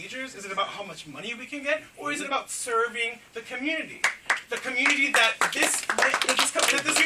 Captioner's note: clapping